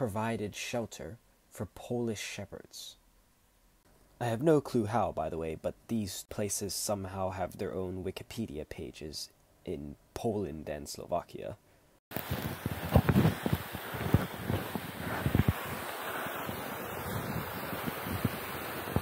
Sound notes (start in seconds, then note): 12.1 waterfall sounds